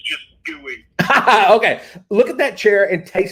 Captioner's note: laughs